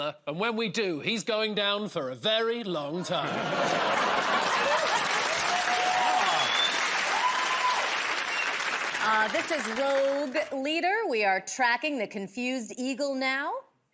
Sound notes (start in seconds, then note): 3.0 laughter; 6.9 cheers and applause